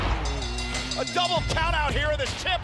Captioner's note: bell ringing